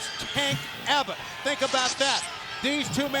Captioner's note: electricity crackling